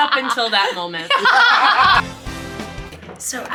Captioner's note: people laughing; upbeat bright music